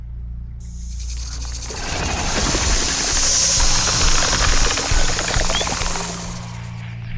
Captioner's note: snake hisses; snake rattles